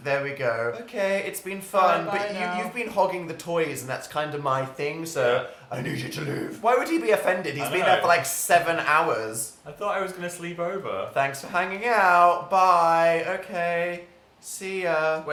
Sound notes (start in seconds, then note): 5.8 growling voice; 6.7 normal voice